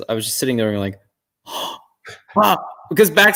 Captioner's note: gasp